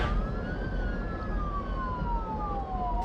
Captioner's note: sirens